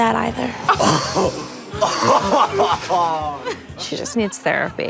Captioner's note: students laughing